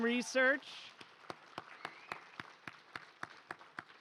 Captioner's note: applause